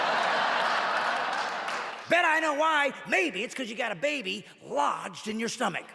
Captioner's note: audience clapping and laughing